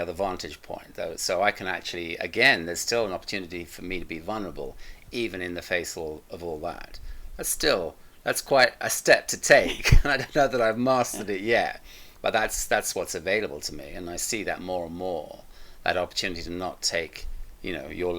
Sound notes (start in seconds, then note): 9.5 both laughing